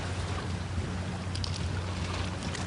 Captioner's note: waves crashing